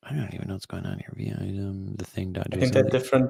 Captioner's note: mumbles